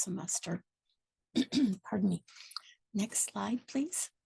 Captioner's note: clears throat